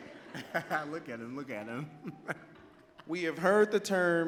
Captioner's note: laughs